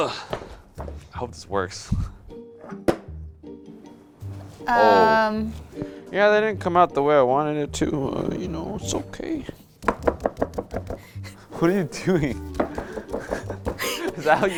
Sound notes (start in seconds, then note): 0.2 grunts; 9.7 hands pounding